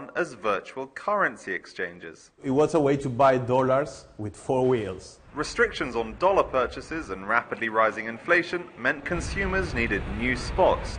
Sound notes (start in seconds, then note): 5.3 man's voice